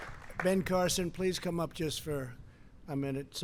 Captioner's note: applause